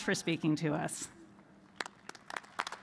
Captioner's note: applause